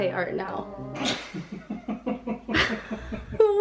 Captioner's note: laughing